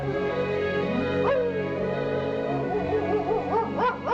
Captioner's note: barking